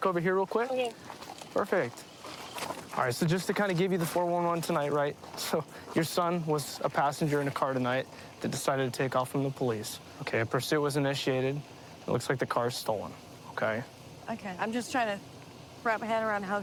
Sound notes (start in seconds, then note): none